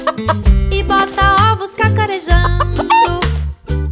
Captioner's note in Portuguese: som de galinhazinha; som de galinhazinha